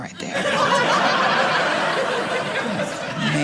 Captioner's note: audience laughing